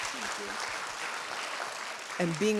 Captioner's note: audience continues to applaud